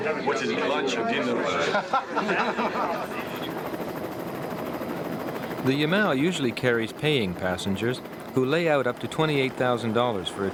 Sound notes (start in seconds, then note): 1.0 all laughing; 3.0 helicopter blades thumping